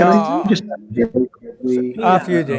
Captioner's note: audio warbles